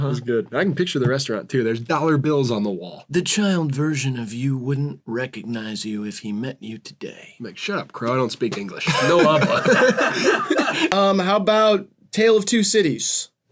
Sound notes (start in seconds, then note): 3.3 crow voice; 8.8 all laughing